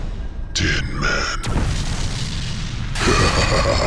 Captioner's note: gun fires; Krampus laughs